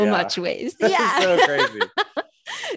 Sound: laughing

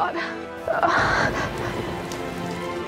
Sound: gasps

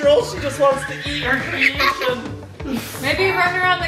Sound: screaming

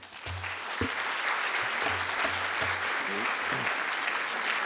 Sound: audience applause

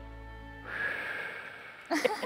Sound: exhaling

